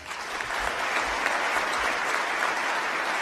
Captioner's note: applause